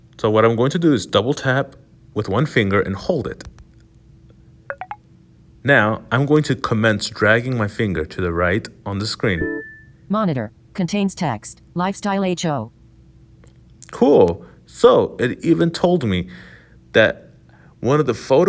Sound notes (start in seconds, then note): 3.5 pop; 9.4 humming, ping